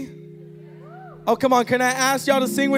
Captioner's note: audience cheering